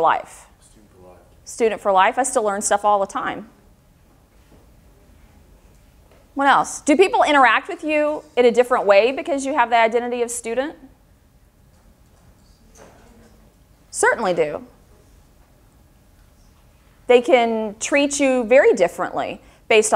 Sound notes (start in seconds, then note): 10.7 audience agreement